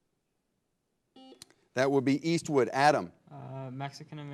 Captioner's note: buzzer blares